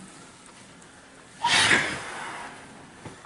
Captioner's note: Sam Sighs